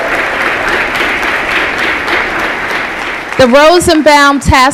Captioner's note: applause